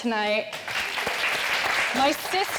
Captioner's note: audience clapping